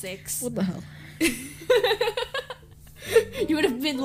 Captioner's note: laughs